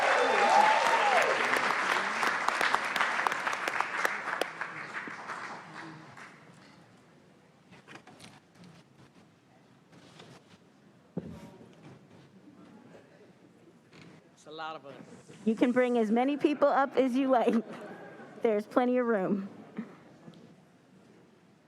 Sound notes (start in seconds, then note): 4.9 cheers and applause